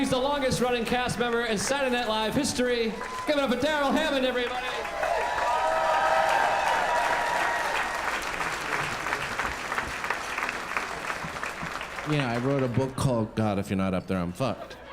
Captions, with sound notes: He's the longest running cast member in Saturday Night Live history. Give it up for Darrell Hammond, everybody. [crowd applauding] You know, I wrote a book called "God, If You're Not Up There, I'm Fucked"